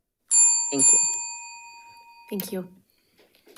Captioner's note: bell rings